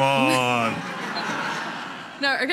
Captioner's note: audience laughing